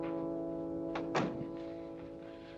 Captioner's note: door closes